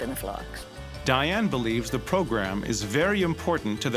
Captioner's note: voiceover